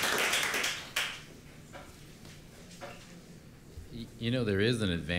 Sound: applause

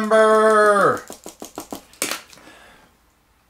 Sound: taps pen against paper

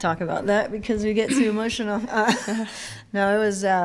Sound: laughs

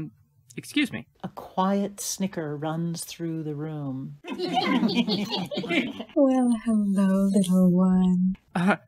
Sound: A quiet snicker runs through the room

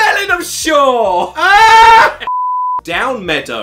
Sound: screams

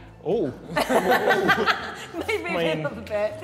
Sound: Sidemen laughing

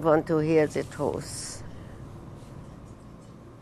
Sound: none

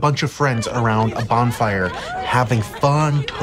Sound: friends laughing

